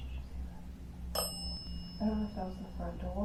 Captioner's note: bell dings